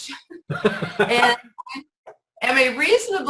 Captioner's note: laughs